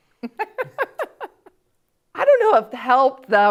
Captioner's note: laughs